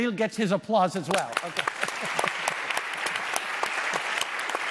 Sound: applause

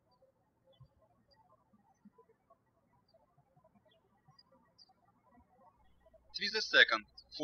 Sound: birds chirping

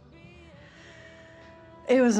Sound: inhales deeply

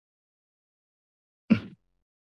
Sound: silence

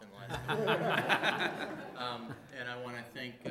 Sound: audience laughing

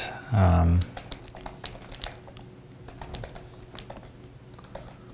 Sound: typing on keyboard

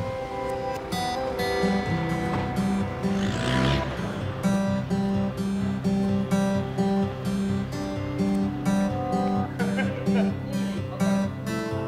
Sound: laughter

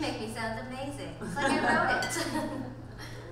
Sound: audience laughs

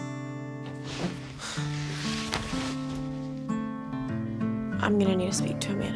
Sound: Birdie sighs

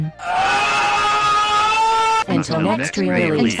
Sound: screams!

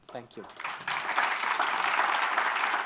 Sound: applause

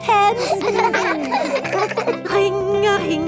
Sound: giggling

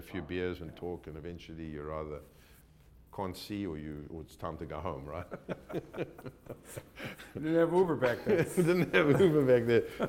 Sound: laughs

